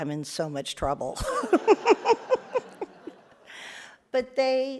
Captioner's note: all laugh